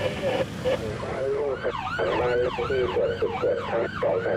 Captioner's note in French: Audio parlé en langue étrangère